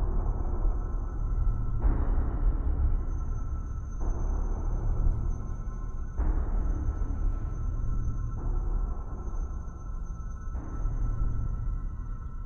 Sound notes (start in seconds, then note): none